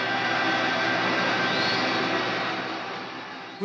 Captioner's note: audience cheering